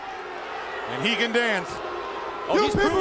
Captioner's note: crowd cheering